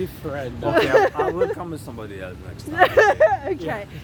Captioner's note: laughter